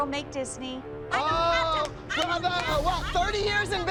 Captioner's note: Cathy shouting